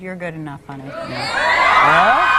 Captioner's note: audience cheering